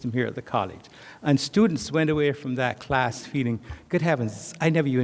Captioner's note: none